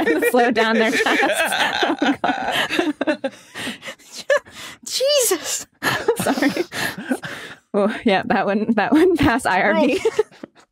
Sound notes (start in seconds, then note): 0.0 laughter slows